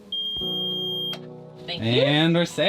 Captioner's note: starter beeps